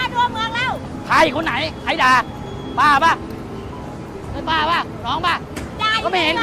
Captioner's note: speaking in foreign language